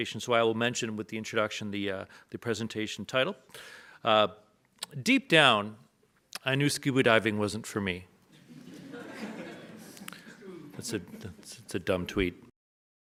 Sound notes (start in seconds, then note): 8.3 audience laughs